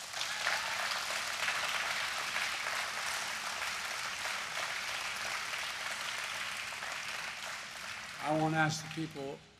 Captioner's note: applause